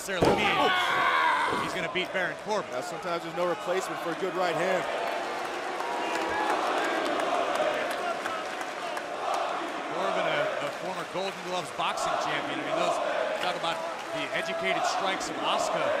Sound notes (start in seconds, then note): 8.5 crowd cheering